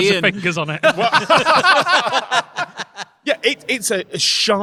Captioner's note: group laughing